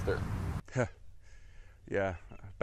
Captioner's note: laugh